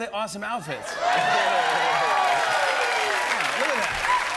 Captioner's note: cheers and applause